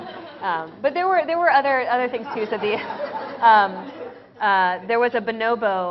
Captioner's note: 笑聲; laughter